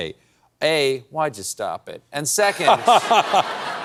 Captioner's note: laughs